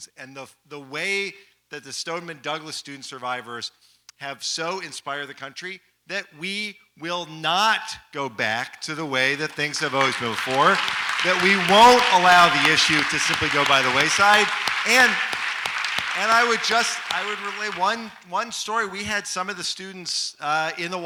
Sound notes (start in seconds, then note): 11.1 audience applauds